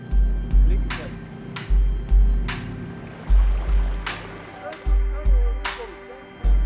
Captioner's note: dramatic music; men speaking in foreign language